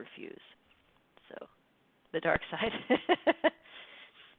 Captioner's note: laughs